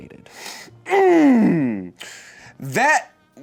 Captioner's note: groans